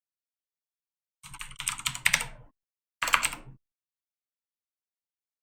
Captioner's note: keyboard typing